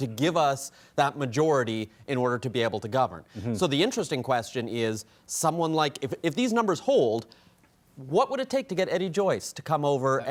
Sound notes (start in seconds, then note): none